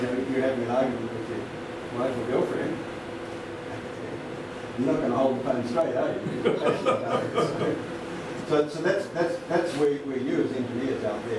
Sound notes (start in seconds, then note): 6.2 laughter